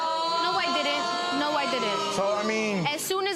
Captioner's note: audience exclaiming